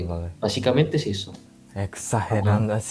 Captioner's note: Spanish